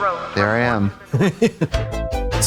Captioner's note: Katya snickers; electronic bop